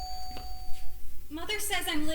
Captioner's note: doorbell rings